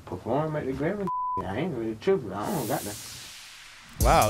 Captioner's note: beep